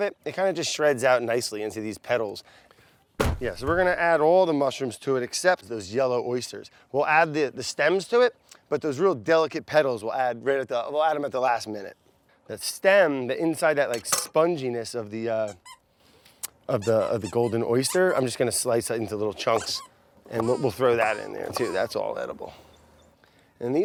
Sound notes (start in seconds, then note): 15.6 squeaking; 20.2 squeaking